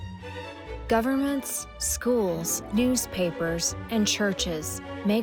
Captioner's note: Lippmann voiceover